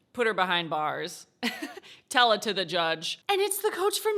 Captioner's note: chuckles